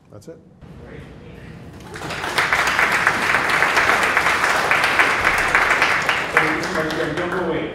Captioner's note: applause